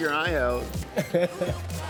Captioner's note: person chuckling